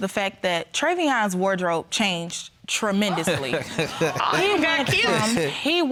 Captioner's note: chuckles